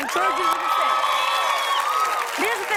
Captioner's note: cheers and applause